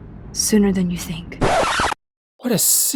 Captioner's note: record scratch